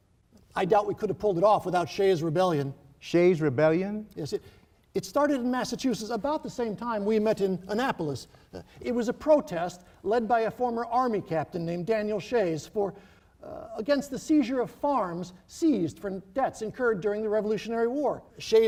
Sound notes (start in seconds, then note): none